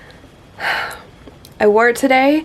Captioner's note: sigh